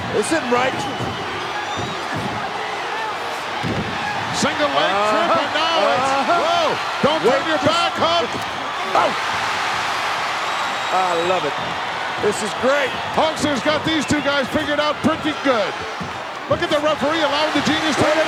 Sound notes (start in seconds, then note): 9.4 audience cheering